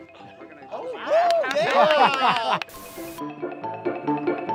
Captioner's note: campers exclaiming; playful music